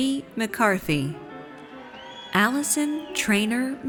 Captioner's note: audience cheers